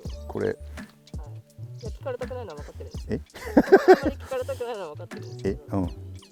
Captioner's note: laugh